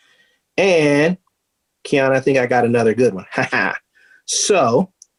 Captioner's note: chuckling